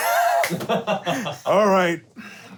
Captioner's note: laughing